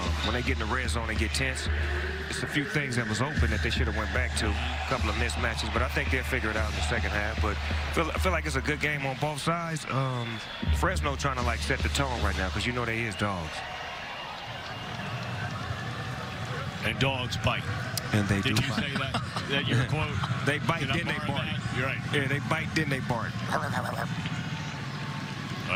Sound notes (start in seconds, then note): 18.4 laughter